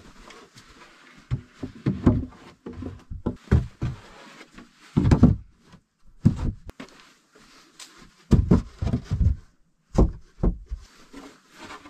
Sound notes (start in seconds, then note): 1.9 boards clattering